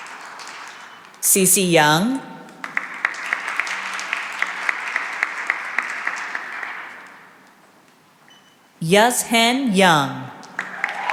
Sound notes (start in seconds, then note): 2.4 applause